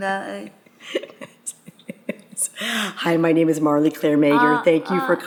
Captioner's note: laughing